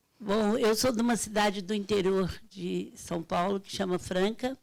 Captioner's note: speaking Portuguese